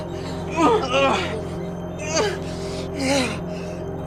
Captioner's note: moaning and gasping for air